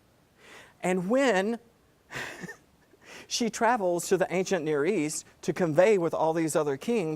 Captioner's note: laugh